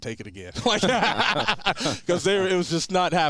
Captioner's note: all three men laughing